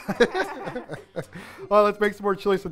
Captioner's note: laughing